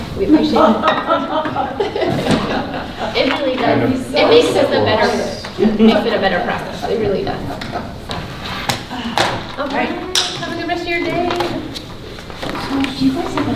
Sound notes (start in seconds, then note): 0.4 women laughing; 2.4 laughing drowns out speaker